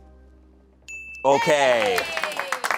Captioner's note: bell dings; audience applauding